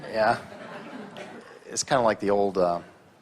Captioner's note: audience laughs